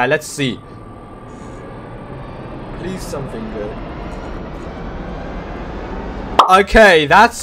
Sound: wheel spinning noises for the last time

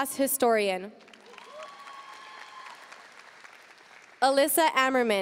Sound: audience cheering and applauding

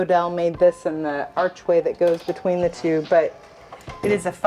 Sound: door squeaks

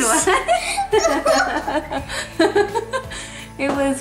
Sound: laughs

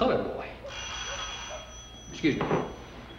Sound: phone rings

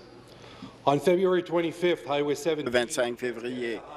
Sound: speaking in French

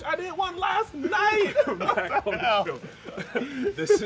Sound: laughing

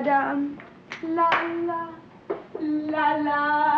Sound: Otto snapping finger

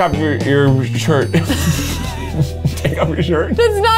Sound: both laugh

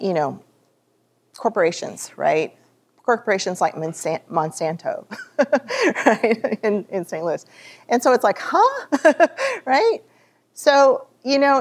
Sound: laughs

